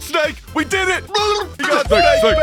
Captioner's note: absolutely losing it noises